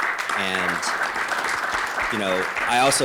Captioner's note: applause